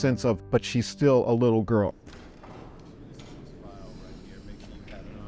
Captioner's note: door opens